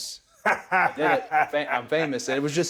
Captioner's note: Austin chuckles